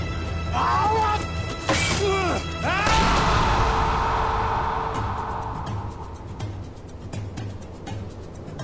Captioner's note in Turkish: Bağırıyorlar